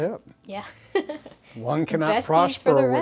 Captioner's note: laughs